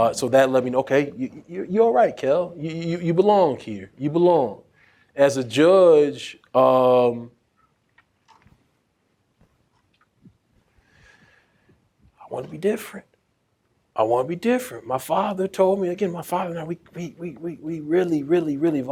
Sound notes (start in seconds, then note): none